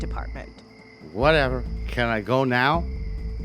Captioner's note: slurred speech